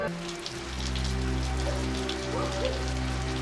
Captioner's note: dog barking